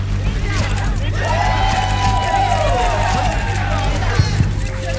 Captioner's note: audience cheering